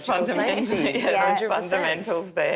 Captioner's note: laughing